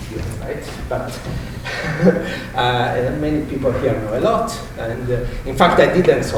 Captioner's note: chuckles